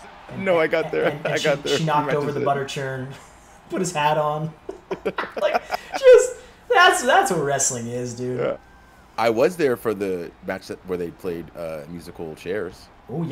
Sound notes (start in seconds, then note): 4.5 laugh